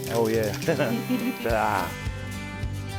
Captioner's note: chuckling